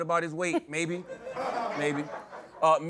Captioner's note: laughter